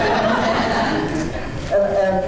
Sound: laughter

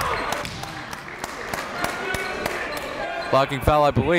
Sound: applauding

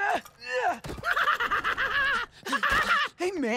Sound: grunting; laughing

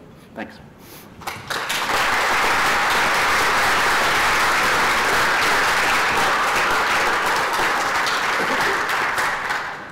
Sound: applause

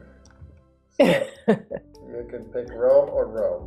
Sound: laughs; client laughing

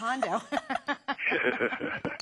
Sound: laughter

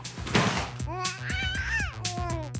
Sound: baby babbling

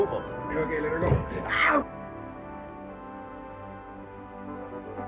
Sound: Reg groans

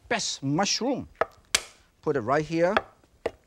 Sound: knife thudding; knife thudding and clinking

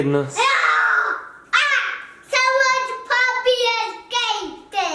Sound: roars

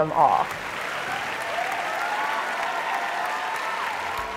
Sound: applause

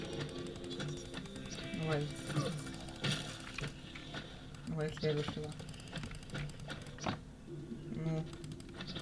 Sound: clicks

